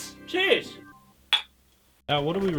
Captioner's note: clink